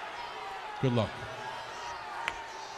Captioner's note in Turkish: Alkışlar